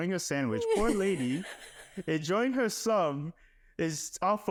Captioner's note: laughing